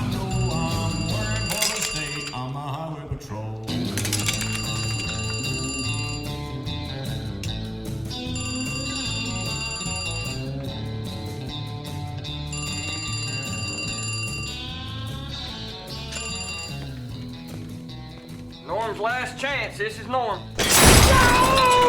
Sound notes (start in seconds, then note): 3.9 telephone rings; 8.2 ring; 11.9 ring